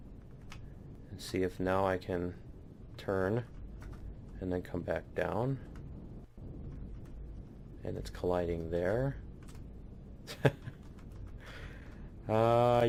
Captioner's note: laughs